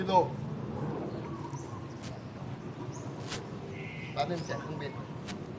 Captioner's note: aircraft sound